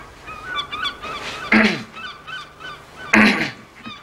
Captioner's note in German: Portier räuspert sich